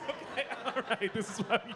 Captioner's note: laughing